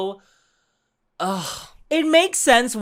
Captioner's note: sigh